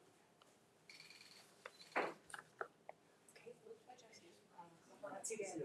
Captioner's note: camera shutters